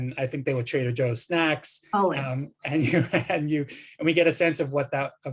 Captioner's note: laughter